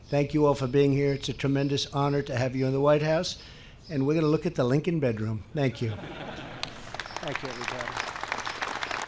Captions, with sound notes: Thank you all for being here. It’s a tremendous honor to have you in the White House. And we’re going to look at the Lincoln Bedroom. (laughter.) Thank you. Thank you everybody. (applause.)